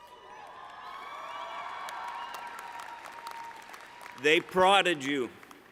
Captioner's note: cheering